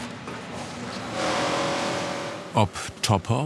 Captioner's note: short humming drilling